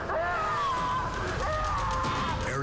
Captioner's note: yelling